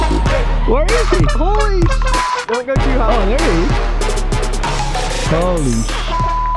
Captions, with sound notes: Where is he? - Holy (beep). - Oh, there he is. - Holy (beep).